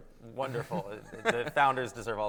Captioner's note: laughs